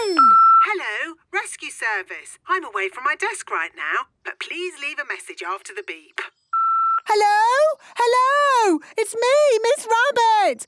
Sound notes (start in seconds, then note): 0.1 answering machine; 6.5 beep